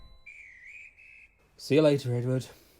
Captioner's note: guard blows whistle